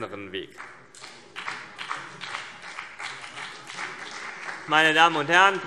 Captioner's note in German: Beifall CDU und BÜNDNIS 90/DIE GRÜNEN